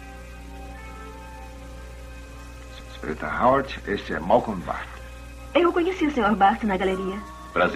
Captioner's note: none